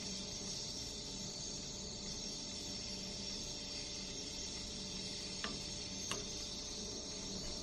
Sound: sound of steam coming out of the rice cooker

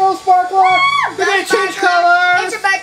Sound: assistant exclaims

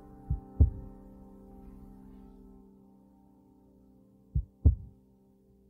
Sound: heartbeat

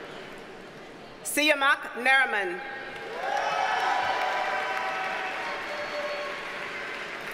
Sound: audience cheers and applauds

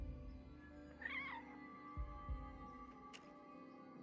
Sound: cat meowing

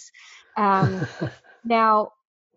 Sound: laughing

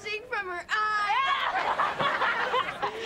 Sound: laughing

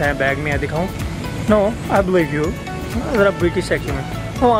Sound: tries British Accent

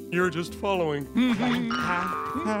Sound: humming

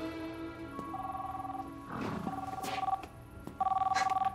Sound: Collin's phone rings

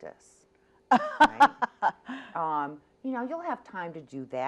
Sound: laughs

